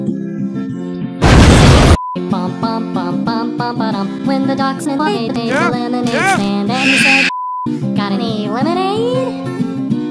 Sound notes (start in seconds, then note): 1.1 car explosion; 6.7 screaming